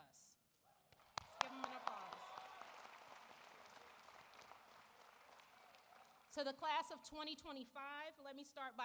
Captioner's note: applause